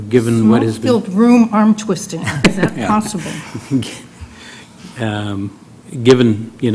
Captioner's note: laugh